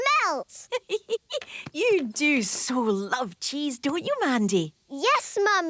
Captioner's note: giggling